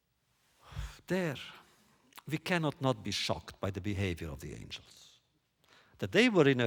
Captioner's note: sighs